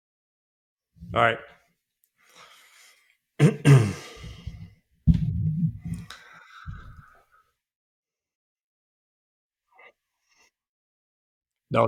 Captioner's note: silence